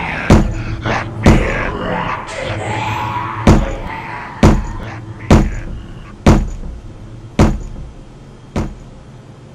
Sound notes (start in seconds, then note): 3.3 knocks